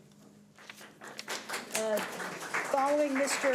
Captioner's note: audience applauds